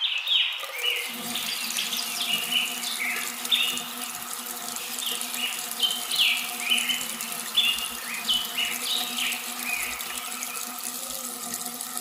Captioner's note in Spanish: Sonido de agua